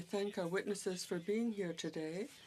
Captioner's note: speaking French